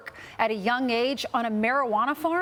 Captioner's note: none